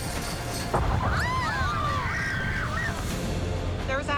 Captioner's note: women screaming